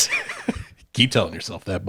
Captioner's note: laughs